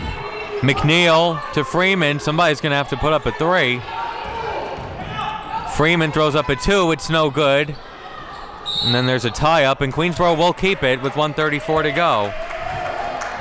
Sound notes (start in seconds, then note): 8.6 whistle blows